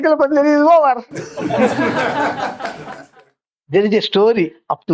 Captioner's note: laughs